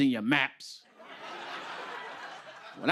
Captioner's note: laughter